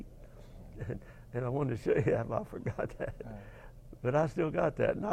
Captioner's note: laugh